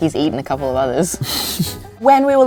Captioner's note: chuckles